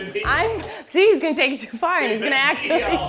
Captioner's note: laughs